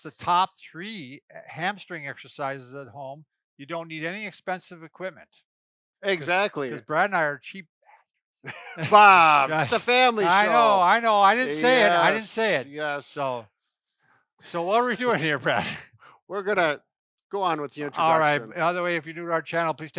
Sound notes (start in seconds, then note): 8.4 both laughing; 8.7 murmurs